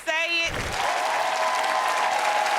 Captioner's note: cheers and applause